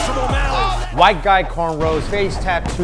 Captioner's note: dynamite exploding